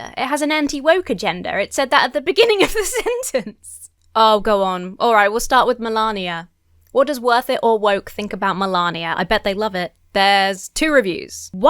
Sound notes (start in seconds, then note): 2.4 laughs